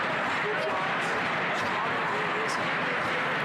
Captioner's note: crowd Noise